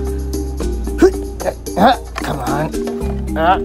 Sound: Alan grunting

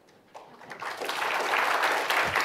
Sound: applause

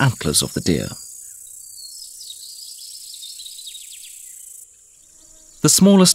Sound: sounds of nature

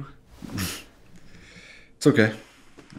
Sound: Benson laughs

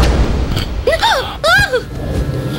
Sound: gasps

